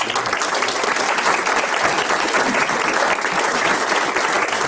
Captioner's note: audience applauds